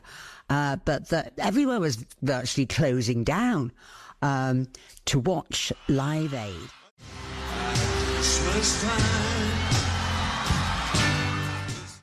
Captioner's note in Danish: Bifald